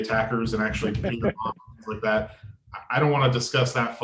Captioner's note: laughter